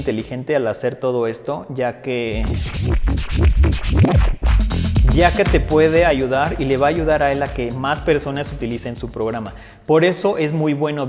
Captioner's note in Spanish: scratch